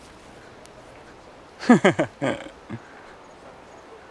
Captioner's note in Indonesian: tertawa